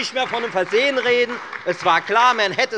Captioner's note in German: Beifall bei der FDP, der SPD und der LINKEN